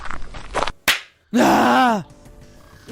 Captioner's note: slap